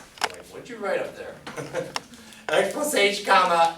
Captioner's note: laughs